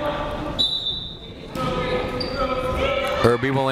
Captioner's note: whistle blaring